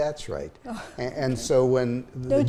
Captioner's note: chuckles